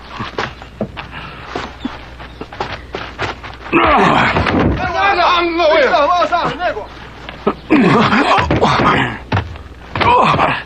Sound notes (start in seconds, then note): 7.6 exclaiming